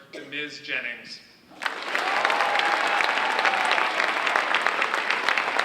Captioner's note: audience applauding